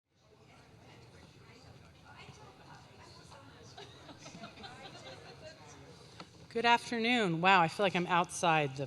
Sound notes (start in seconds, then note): 0.1 crowd chattering indistinctly; 3.7 crowd members laughing